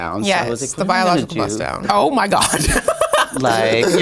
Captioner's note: laughs